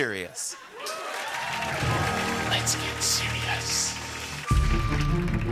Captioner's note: whispering